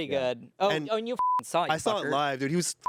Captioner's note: beep